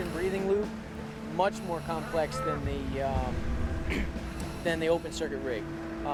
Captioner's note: clears throat